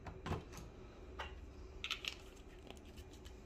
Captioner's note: closing ink bottle cap